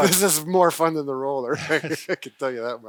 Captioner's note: laughs